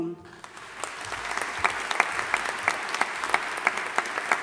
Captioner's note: audience applauding